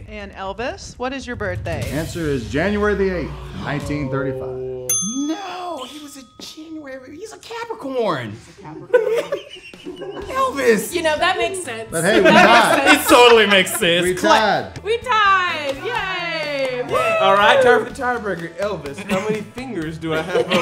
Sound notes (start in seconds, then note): 4.8 bell dinging; 8.9 laughing